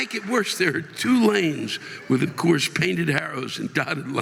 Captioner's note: audience laughing and applauding